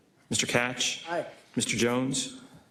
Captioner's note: none